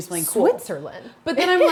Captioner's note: chuckles